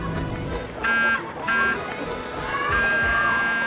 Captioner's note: car horn honks; kids shouting